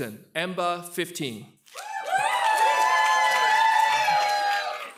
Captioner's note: cheers and applause